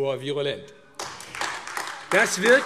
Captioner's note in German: Beifall AfD